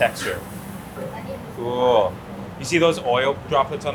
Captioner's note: kitchen staff chatters